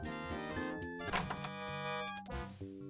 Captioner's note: door opens